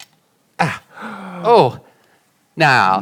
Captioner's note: grunting